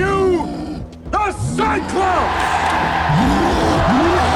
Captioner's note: loud cheering